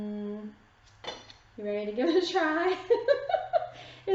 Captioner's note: giggling